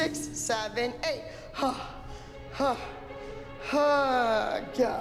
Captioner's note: heavy breathing